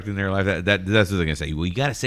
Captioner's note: uh